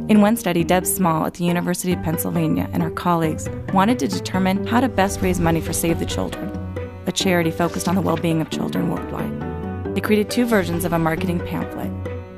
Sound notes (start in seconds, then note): none